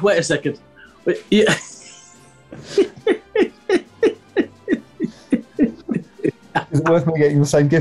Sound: giggling

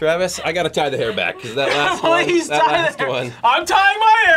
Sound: laughs

